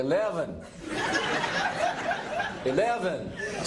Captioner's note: laughter